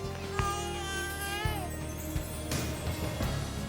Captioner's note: baby cries